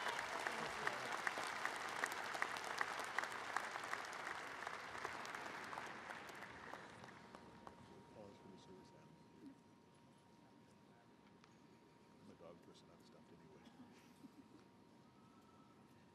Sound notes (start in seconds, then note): 3.3 applause